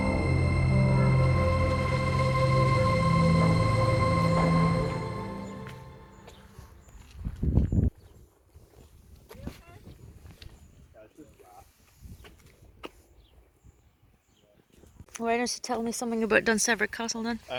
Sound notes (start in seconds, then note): none